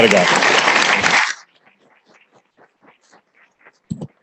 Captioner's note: applause